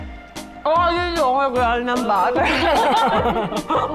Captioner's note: rambling